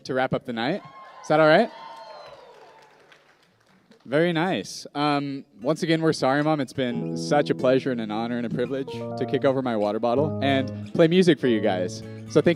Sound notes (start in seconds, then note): 0.8 cheers and applause